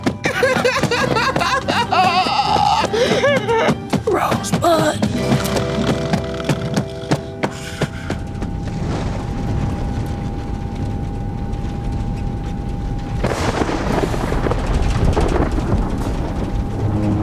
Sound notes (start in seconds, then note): 1.3 Jordan crying; 5.3 Jordan snoring; 10.3 rain pattering; 13.4 thunder rumbling